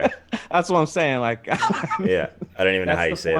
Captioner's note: laughter